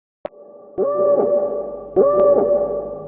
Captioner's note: drone sound